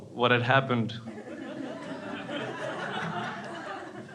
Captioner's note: crowd laughing